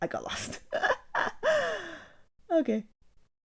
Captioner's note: wheezing